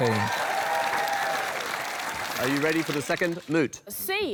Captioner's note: applause